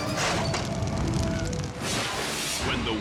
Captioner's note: fire blazing; curtain exploding; dramatic air whoosh